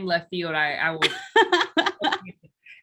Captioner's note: laughs